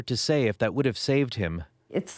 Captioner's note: none